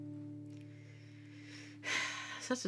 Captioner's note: inhaling deeply